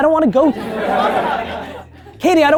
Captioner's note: team laughing